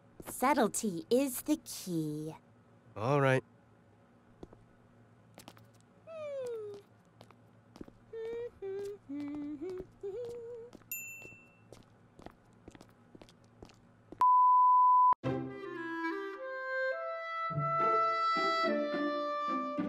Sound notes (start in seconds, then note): 8.0 Nora humming contentedly to herself